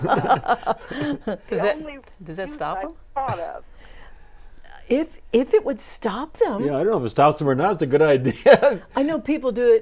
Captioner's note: laughing